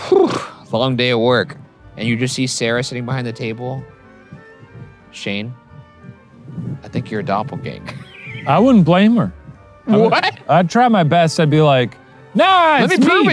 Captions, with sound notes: "It's a long day at work." And you just see Sara sitting behind the table. "Shane, I think you're a doppelganger." - I wouldn't blame her. - (laughs) What? - I'd try my best. I'd be like, "No, it's me!"